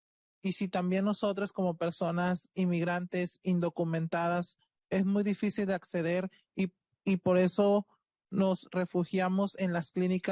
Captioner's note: speaking Spanish